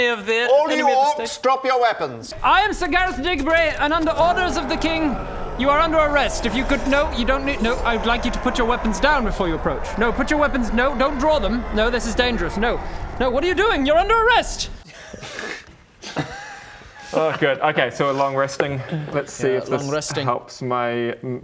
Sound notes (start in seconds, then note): 5.0 grrr; 7.3 battle noises